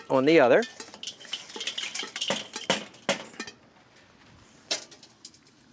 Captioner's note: metal clanking together